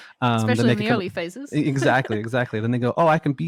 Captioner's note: laughs